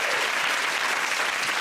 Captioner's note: cheers and applause